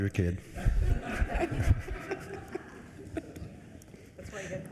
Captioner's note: everyone laughs